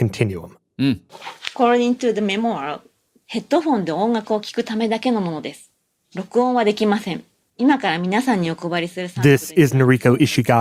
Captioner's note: speaking Japanese